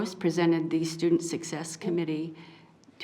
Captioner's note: none